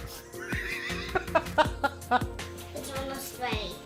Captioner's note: laughs